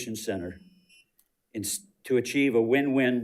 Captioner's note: timer beeps